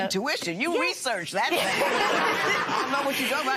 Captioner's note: laughter